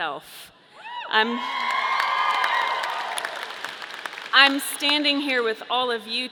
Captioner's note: audience cheering; audience applauding